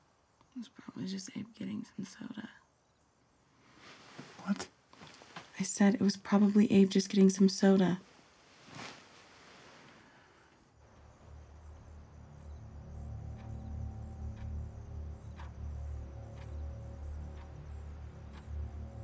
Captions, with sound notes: - It was probably just Abe getting some soda. - What? - I said it was probably Abe just getting some soda. (soft suspenseful music) (clock ticking)